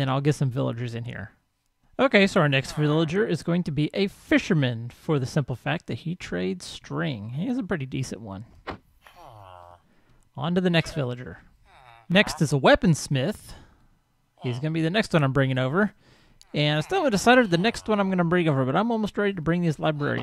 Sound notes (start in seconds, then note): 2.5 villager chatters; 11.8 villager chatters; 14.4 llama calls; 16.4 villager chatters